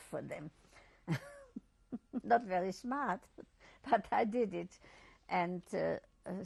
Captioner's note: laughs